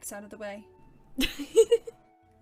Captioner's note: Peter giggles